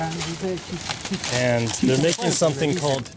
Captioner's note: man speaking in foreign language; dry leaves crunching